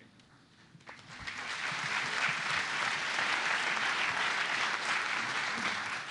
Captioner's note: applause